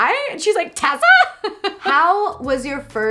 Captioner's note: laughs